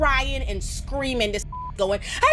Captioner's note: beep